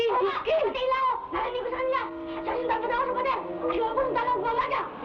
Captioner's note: boy shouting in Tagalog